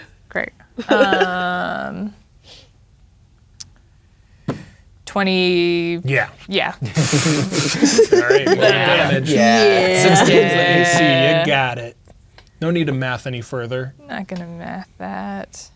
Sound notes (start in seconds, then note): 0.8 laughing; 6.8 players laughing